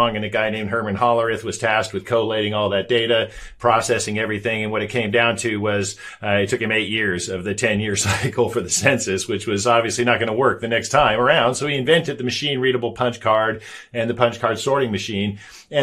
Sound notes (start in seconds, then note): 8.0 chuckles